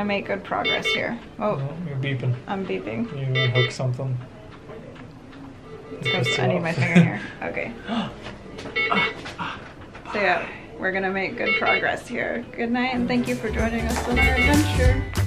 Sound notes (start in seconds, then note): 2.0 machine beeps; 9.3 fake gasps